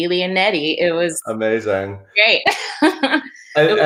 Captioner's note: laughs